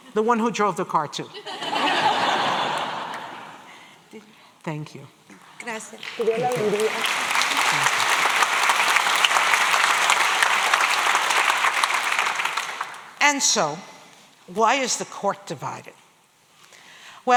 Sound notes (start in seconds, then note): 6.1 spanish; 8.5 applause